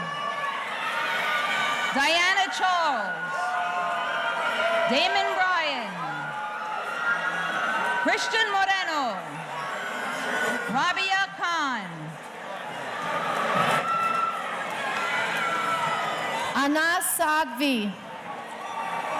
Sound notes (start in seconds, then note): 3.6 audience cheering